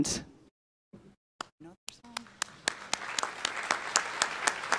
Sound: applause

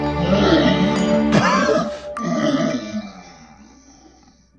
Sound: liquid squelching; Puto Monster grunting

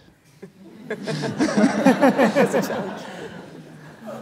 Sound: laughter

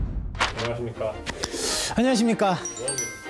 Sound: inhaling

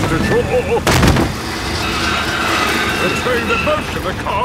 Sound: thud

